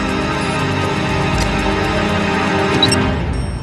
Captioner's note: beeping stops; beeping